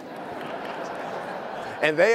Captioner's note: attendees laughing